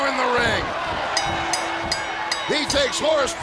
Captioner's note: bell ringing